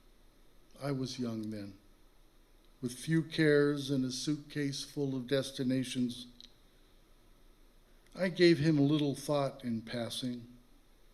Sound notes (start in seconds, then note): none